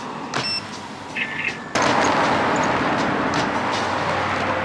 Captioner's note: bike makes a cash register sound for some reason?!